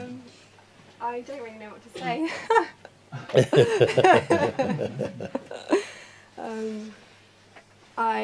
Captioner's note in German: Mooji lacht